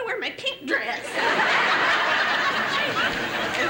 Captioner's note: laughter